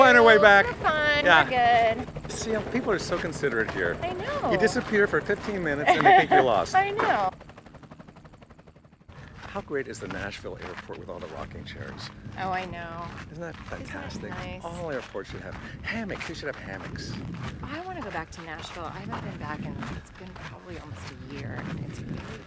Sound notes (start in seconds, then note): 8.1 helicopter whirring